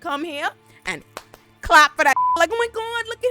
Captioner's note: beep